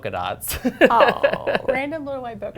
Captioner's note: laughter